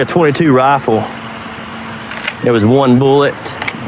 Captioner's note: clickcks